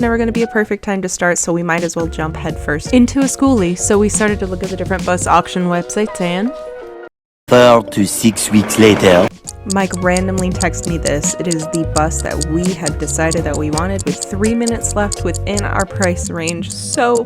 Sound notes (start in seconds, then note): 9.2 ominous ticking in background